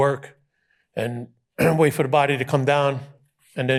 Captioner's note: clears throat